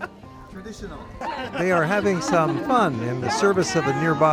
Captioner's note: laughter